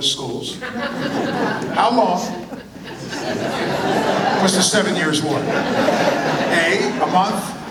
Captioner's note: laughter